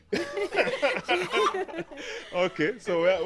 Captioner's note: laughing